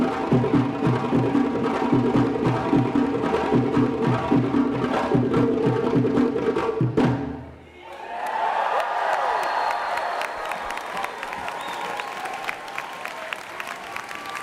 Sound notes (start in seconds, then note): 7.9 applause